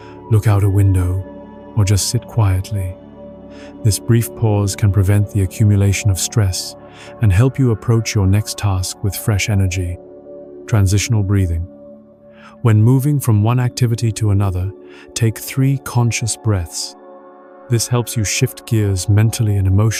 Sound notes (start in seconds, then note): 12.2 transitional Breathing